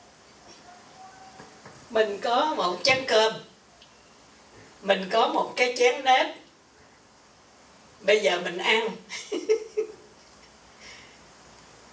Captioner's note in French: rires